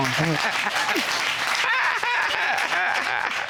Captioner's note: audience applauding